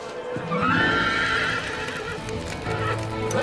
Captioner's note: neighing